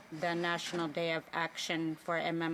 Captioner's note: speaking Indigenous